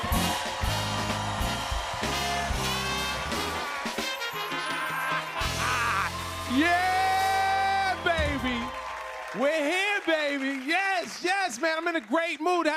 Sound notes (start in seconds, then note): 0.1 cheers and applause; 4.4 laughs